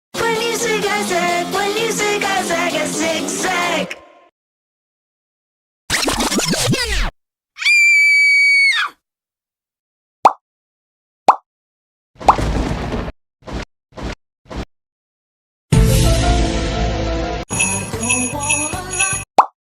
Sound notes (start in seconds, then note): 5.9 tape Rewind; 7.6 scream; 12.2 thunder; 17.5 jingles